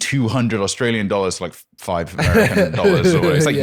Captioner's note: laughs